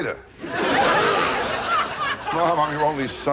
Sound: audience laughter

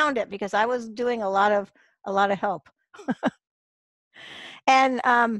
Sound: laughs

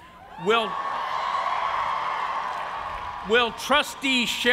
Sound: cheers and applause

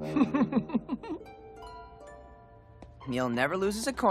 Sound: giggling

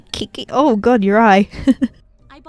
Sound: laughs

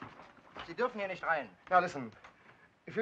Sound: speaking in foreign language

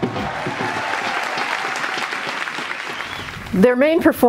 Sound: applause

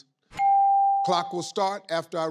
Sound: ding

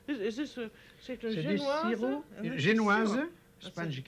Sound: speaking French

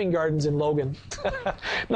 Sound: laughs

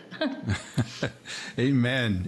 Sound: laughing

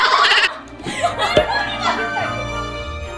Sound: cracking up

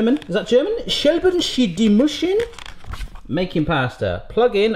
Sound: speaks foreign sounding gibberish

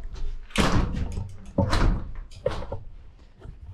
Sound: door slamming

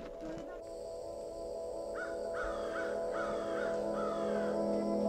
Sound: chirping birds sounds

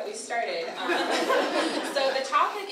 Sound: audience laughter

